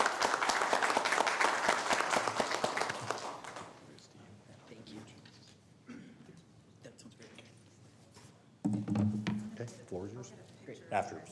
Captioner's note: applause